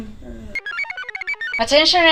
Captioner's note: computer chirps